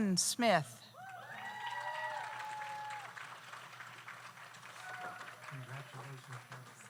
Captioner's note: audience cheers; audience applauds